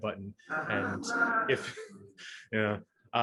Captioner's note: laughing